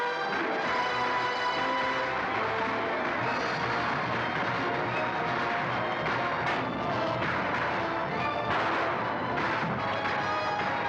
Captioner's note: bugle call; dramatic orchestral music; guns firing